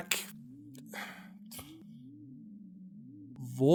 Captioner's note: sighs